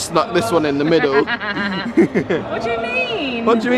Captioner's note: laughs